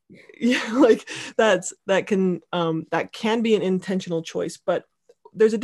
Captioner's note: laughing